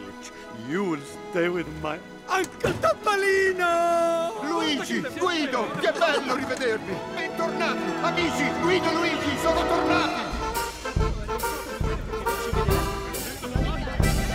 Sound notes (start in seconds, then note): 5.5 speaking in Italian; 9.8 cheerful music